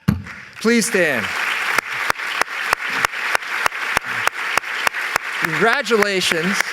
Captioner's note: applause